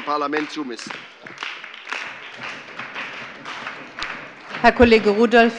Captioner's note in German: Beifall bei der SPD und der FDP